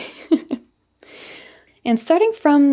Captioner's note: softly chuckling